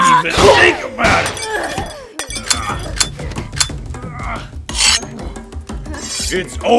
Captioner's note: gun cocks, knife rips free from sheath